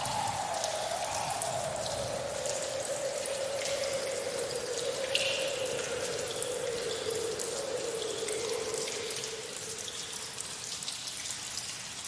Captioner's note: strong wind